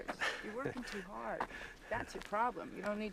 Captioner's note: laughs